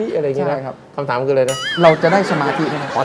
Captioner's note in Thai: หัวเราะ